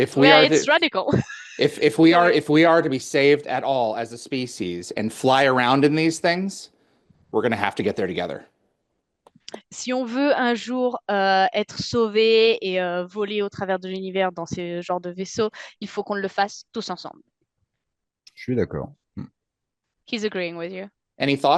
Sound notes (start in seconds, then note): 11.9 translating from French